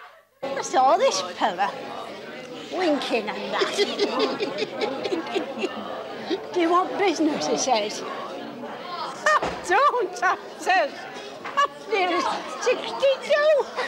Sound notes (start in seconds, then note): 2.7 people laugh